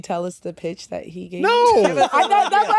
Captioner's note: laughter